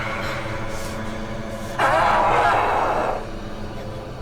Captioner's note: growling